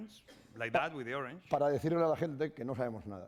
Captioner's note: speaking spanish